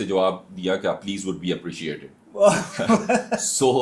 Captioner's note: हंसी